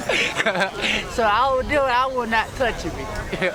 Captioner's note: laughter